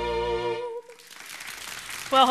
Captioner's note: audience applauds